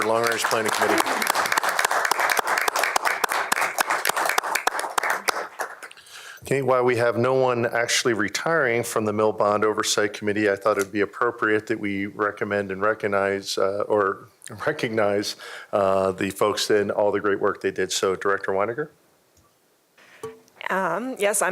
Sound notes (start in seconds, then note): 5.1 applause